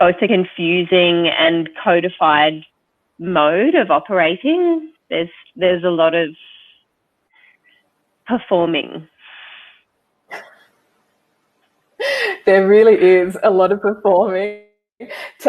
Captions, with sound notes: it's a confusing and codafide mode of operating, there's a lot of performing. (chuckles) - There really is a lot of performing.